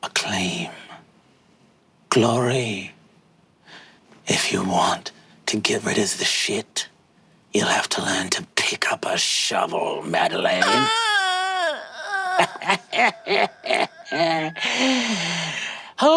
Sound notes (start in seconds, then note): 10.6 bawling; 12.0 Brennan cackling